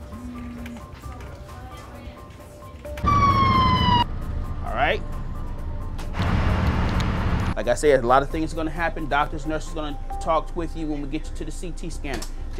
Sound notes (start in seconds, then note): 3.0 sirens wail